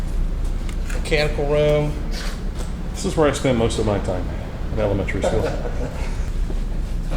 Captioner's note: laughter